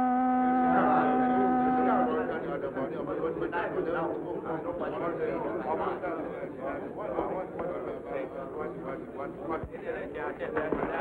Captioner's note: shift whistle sounds; indistinct crowd chatter